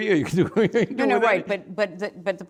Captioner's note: laughs